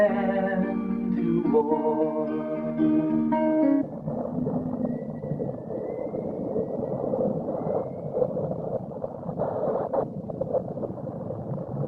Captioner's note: wind sounds